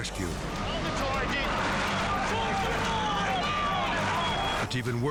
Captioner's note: firefighters shouting